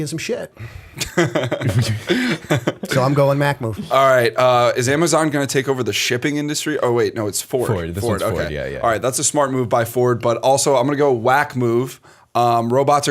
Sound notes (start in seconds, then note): 0.9 laughter